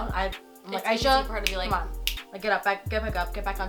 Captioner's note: snapping fingers